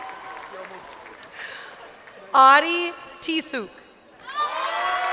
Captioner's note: crowd cheering